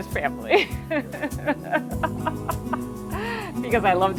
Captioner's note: both laughing